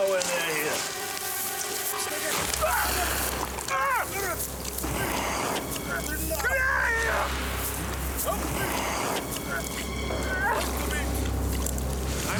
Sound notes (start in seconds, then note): 2.8 man wailing; 10.7 suspenseful music